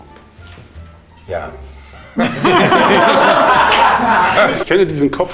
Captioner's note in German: beide lachen, dann lachen alle